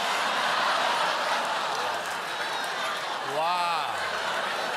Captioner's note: audience reacts